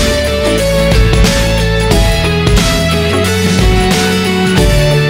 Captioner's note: crushed